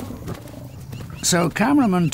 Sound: lioness growls and grunts

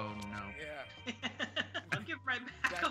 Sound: laugh

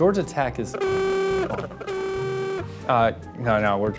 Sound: Ramblin' Wreck horn ringtone

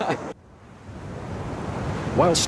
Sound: waves crashing

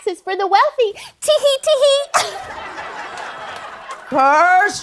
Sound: laughter

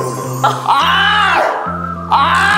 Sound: difficulty breathing

